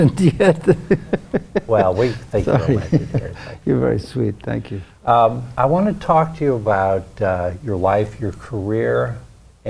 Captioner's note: laughs